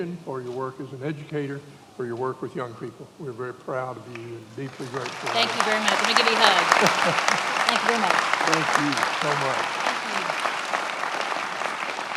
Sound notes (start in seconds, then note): 6.2 many applauding; 8.1 laughing